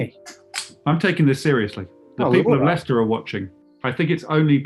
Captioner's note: opens can